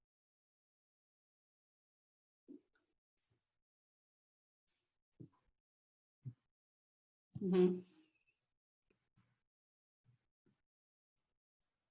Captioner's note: silence